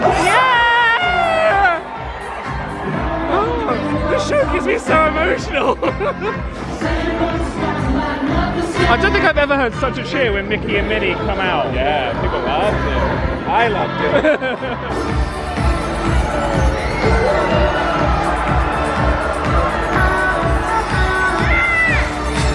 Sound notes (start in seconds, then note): 0.0 guests cheer; 5.4 laughs; 14.0 laughs; 15.7 bright music; 19.6 guests cheering